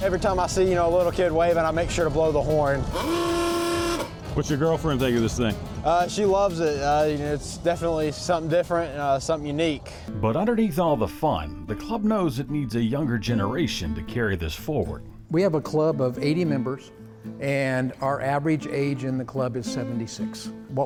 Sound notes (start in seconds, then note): 2.8 horn blaring